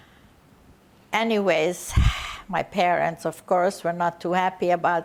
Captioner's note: sighing